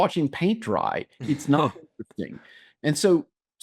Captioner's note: laughs